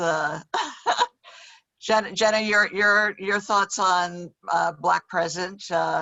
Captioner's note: laughs